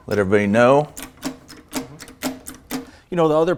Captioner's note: handle clicking